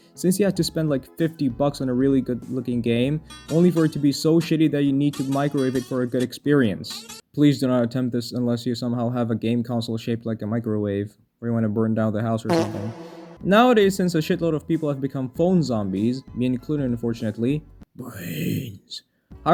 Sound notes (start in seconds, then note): 12.6 blam